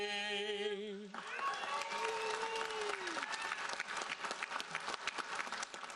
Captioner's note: audience cheering and applauding